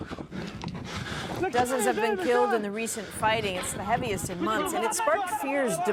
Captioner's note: speaking foreign language